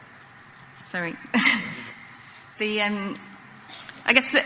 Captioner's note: laughing